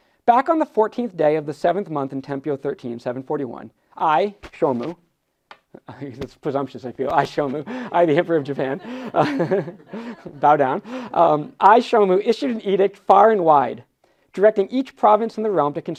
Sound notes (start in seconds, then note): 7.0 laughs